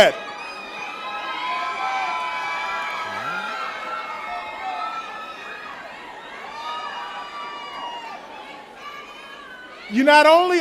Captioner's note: cheering